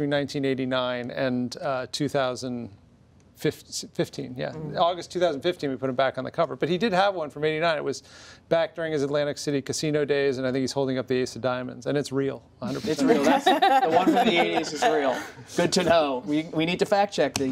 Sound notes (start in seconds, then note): 13.1 laughter